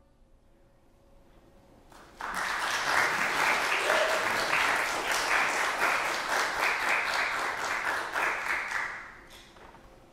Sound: applause

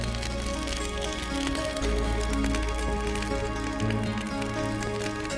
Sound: fire crackling

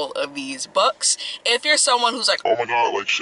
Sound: deep voice

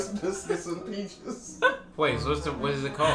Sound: laughs; chuckles

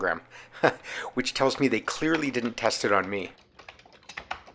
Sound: laughs

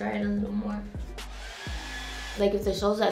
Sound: blow drying

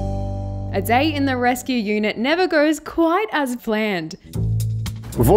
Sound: voiceover

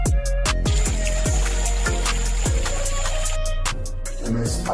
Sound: water flowing from fountain

